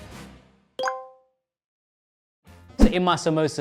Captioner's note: score chimes